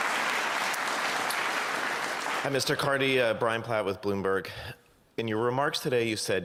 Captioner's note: cheers and Applause